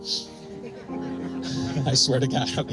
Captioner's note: faint laughter